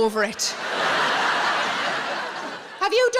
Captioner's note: audience laughs